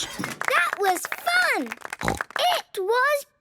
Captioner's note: applause